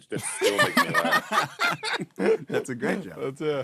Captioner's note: laughing